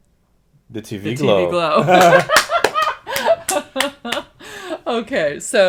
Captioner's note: laughter